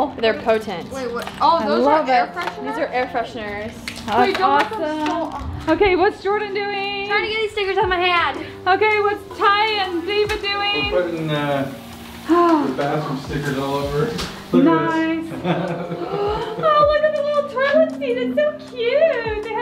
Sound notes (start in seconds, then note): 12.1 woman sighing; 15.4 chuckles; 15.7 gasps